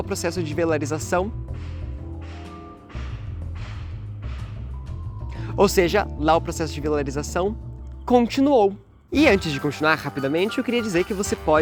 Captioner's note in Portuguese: barulhos de pancadas